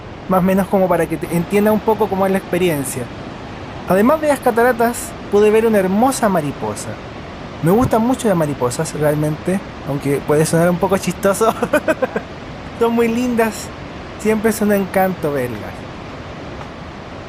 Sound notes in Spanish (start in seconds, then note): 11.4 risas